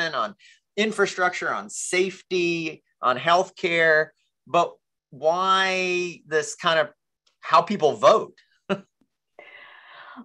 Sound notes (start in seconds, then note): 8.4 chuckles